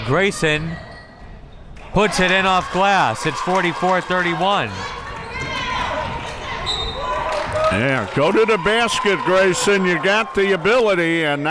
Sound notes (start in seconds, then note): 5.2 crowd members shouting; 6.7 whistle tweeting